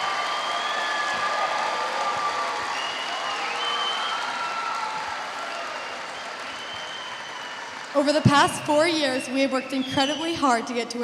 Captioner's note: chrs and applaus